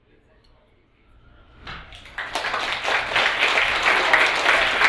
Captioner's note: applauding